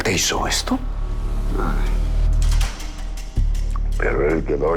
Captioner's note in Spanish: Quejidos